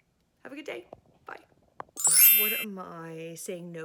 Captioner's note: chiming